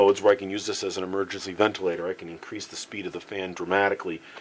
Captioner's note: breathing pattern